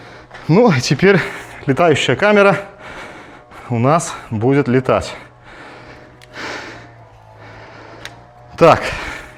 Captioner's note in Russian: тяжелое дыхание